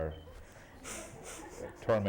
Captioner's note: laughter